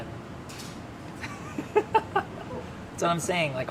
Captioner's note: laughing